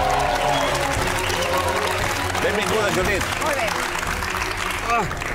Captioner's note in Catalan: aplaudiments